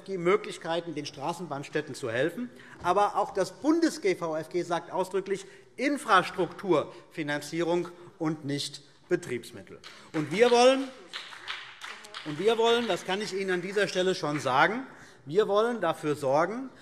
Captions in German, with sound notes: die Möglichkeit, den Straßenbahnstädten zu helfen. Aber auch diese Bundesregelung schreibt eindeutig vor, dass es um die Infrastrukturfinanzierung, aber nicht um die Finanzierung von Betriebsmitteln geht. [Vereinzelter Beifall BÜNDNIS 90/DIE GRÜNEN] Wir wollen dafür sorgen - das kann ich Ihnen an dieser Stelle schon sagen -,